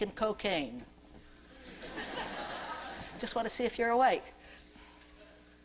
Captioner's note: laughter